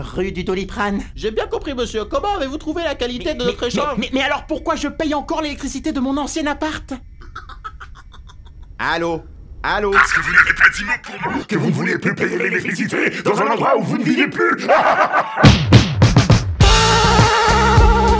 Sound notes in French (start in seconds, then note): 9.9 Rires du conseiller; 14.3 rires